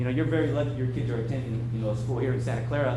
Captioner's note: none